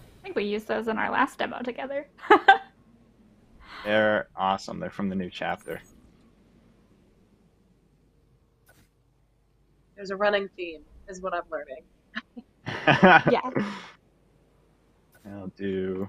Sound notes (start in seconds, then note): 12.6 laughs